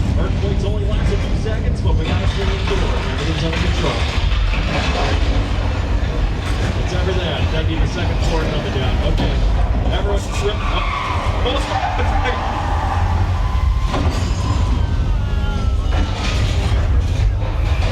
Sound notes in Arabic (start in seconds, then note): 11.6 صرير الإطارات; 11.6 هدير المبنى